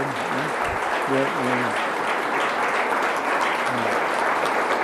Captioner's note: audience applauds